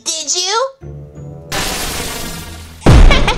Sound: zapping; explosion

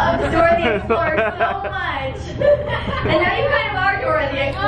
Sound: laughing

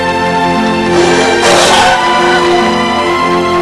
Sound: cries

